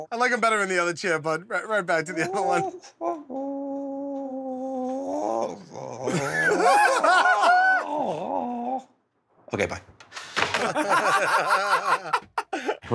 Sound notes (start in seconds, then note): 2.2 groaning continues; 6.0 laughter; 10.4 laughter